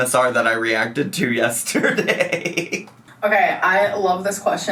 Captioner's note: laughs